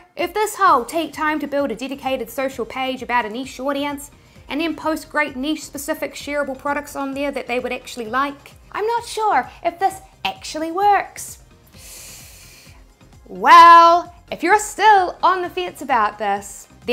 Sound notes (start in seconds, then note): 11.6 deeply inhales